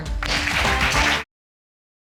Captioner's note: audience applauding